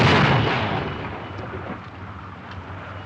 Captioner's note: explosion